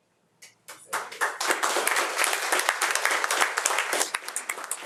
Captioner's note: audience applauding